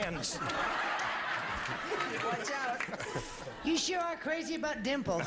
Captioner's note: audience laughing